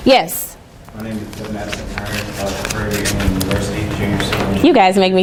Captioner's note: student speaking faintly